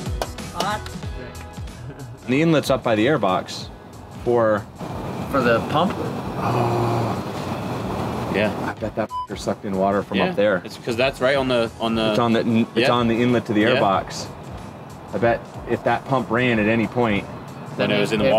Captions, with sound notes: - Hot. - The inlets up by the air box for - For the pump? - Yeah. - I bet that (beep) sucked in water from up there - 'Cause that's right on the, on the - It's on the inlet to the air box. I bet if that pump ran at any point - Then it was in the water